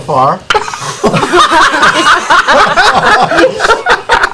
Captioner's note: laughter